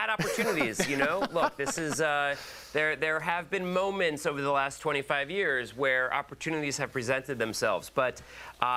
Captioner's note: laughter